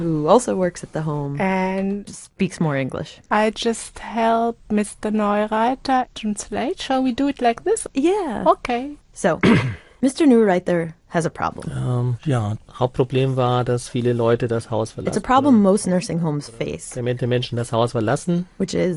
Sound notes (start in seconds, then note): 11.6 speaking in German; 17.1 speaking in German